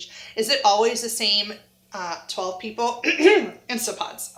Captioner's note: clears throat